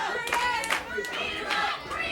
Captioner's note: audience clapping